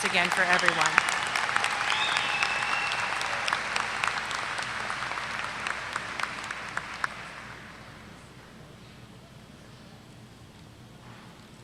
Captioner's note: applause